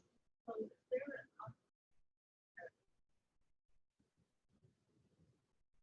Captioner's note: audio drops